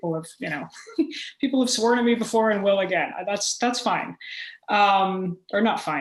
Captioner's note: chuckle